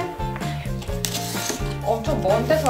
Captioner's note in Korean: 테이프 자르는 소리